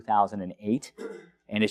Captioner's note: cough